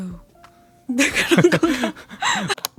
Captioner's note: laughs